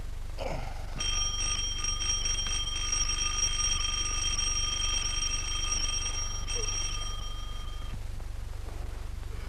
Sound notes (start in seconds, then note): 1.0 door Bell